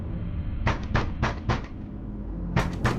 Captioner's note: pounding on door